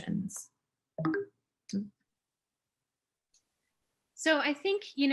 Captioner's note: notification sound